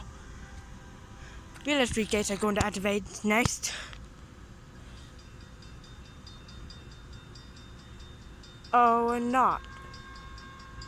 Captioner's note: Evers Street crossing activates